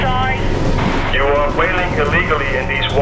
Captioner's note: man On Loud Speaker